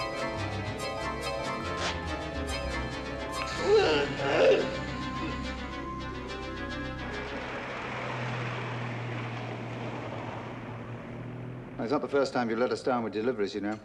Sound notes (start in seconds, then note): 3.1 skin sizzling; 3.5 groaning